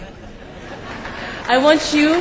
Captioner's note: applause